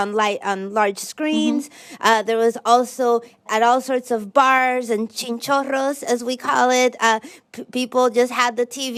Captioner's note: speaking Spanish